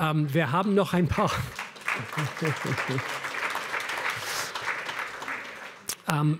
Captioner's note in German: Applaus